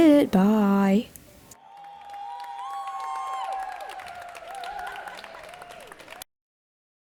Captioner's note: immense cheering and clapping, good job to me